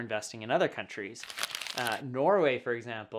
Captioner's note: paper rubbing